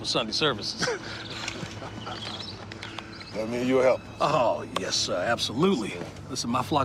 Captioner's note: laughs